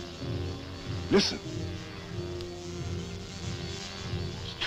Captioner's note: wasps buzzing